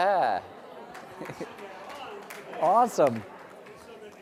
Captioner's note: applause